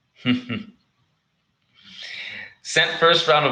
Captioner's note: chuckles